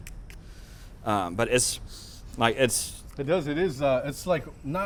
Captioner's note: inhales scent